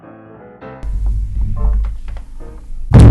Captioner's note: rumble; boooom